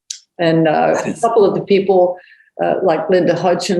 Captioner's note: chuckles